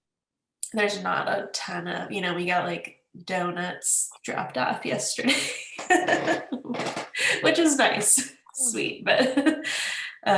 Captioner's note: laughs